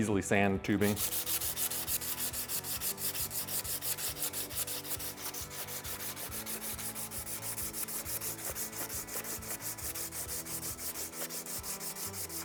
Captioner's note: sanding noise